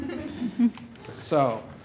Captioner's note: laughter